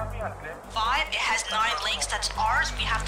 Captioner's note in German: Stimme am Lautsprecher